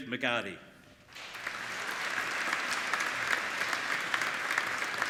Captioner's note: applauding